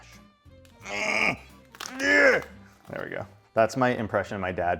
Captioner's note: grunts